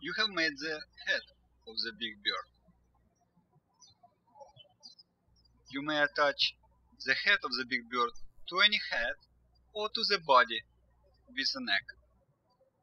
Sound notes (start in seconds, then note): 4.2 birds chirping